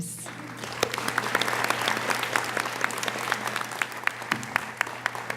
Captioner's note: audience applauding